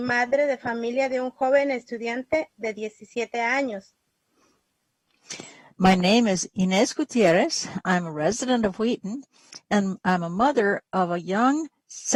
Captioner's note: speaking spanish